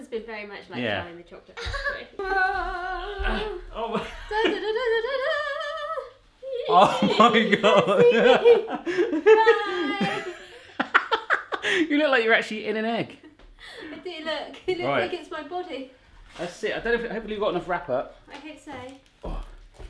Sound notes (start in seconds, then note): 4.2 humming; 11.2 laughing